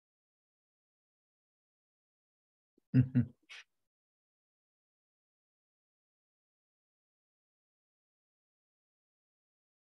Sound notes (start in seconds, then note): 2.9 chuckles